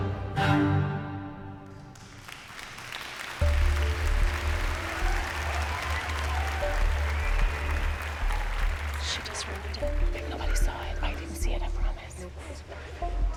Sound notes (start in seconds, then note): 0.1 song ends; 1.8 applause and cheers